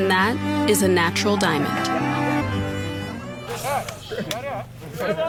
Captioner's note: people laughing